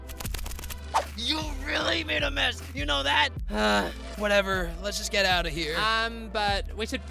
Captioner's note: sigh